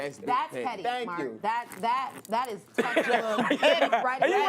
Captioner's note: laughter